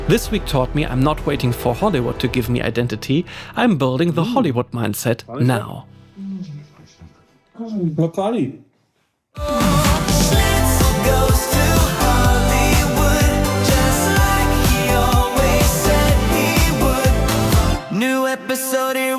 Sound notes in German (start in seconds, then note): 6.7 Spricht in einer Fremdsprache; 8.9 Fröhliche Musik